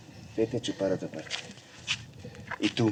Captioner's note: speaking spanish